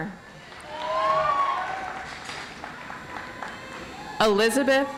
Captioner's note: audience applauds